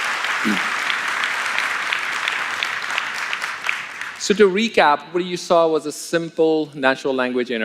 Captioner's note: applause